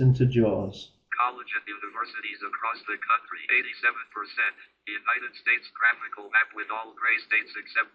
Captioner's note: JAWS animated voice